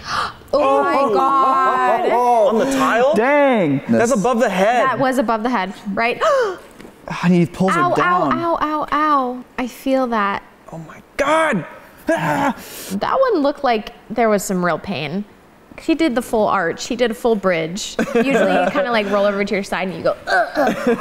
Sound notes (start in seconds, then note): 0.0 gasp!; 6.2 gasp